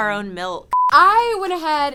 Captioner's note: beep